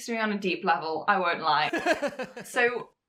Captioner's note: host laughs